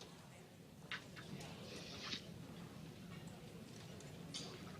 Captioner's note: group chatter